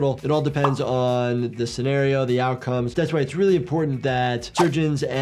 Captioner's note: none